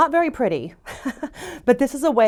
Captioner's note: laughs